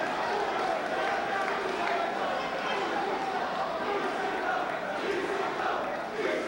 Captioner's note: spectators chanting "ECW!"